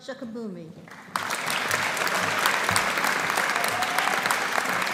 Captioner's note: audience applauding